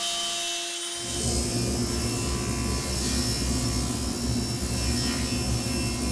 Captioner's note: driller whirring continues